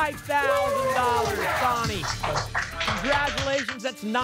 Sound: applause and cheering

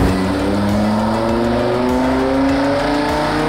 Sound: engine revving

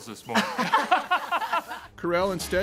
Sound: laughs

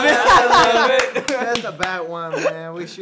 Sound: laughing; clapping

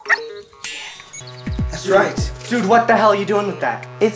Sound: beeps, buzzes

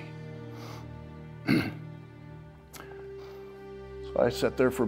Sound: Tom coughs

